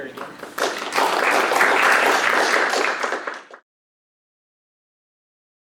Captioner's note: audience applauds